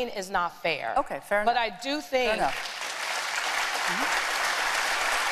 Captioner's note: applause